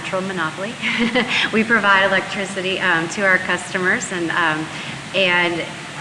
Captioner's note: laughs